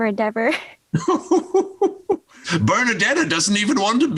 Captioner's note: laughing